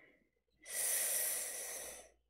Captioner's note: sharp inhale